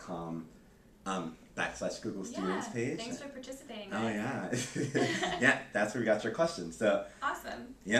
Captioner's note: laughs